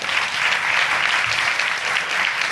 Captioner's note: audience applauding